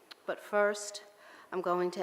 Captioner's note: none